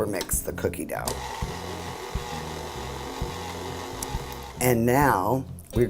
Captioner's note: whirring